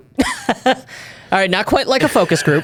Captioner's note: chuckles